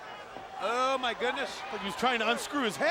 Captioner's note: crowd clamoring